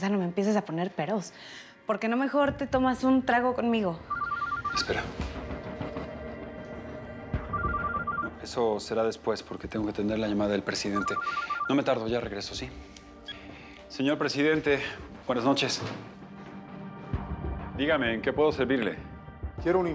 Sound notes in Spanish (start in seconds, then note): 4.0 suena el celular